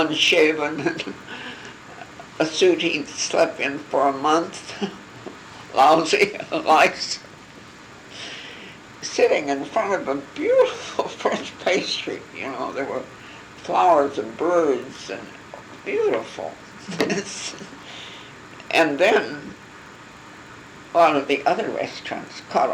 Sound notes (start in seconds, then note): 11.3 laughing; 16.8 laugh